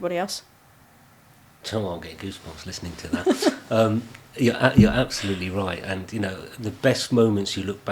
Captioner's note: laughing